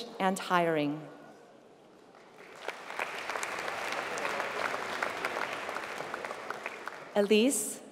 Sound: applause

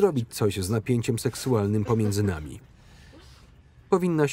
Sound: laughing

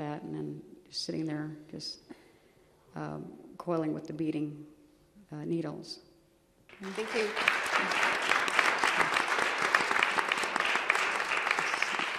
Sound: applause

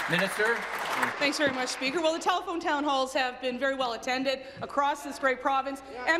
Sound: applause

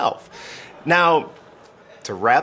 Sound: crowd laughing

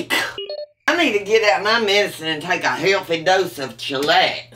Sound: email sound

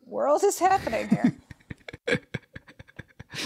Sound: laughs

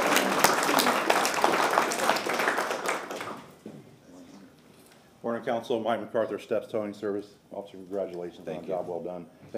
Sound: applause

